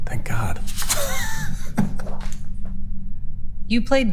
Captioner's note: group laughing